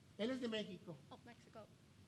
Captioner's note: speaking in foreign language